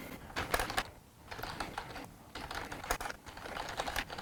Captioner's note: typing